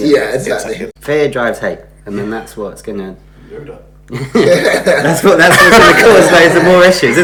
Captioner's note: laughs